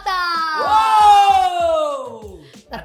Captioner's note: cheering